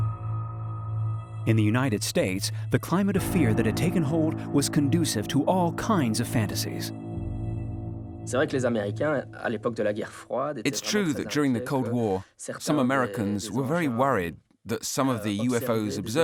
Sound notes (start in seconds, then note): 0.0 suspenseful music; 8.4 speaking foreign language